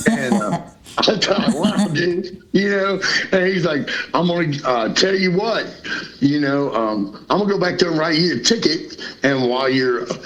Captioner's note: laughter